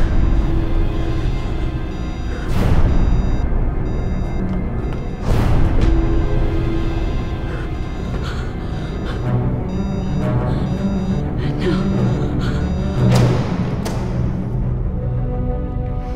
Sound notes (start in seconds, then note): 2.8 gasping; 8.1 breathing shakily